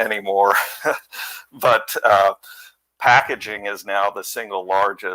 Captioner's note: laughter